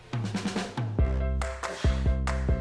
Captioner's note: grunting